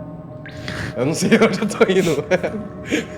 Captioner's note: laughing